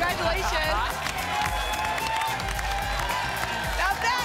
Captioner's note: applause and cheering cont